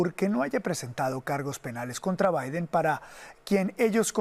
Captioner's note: HABLA EN INGLéS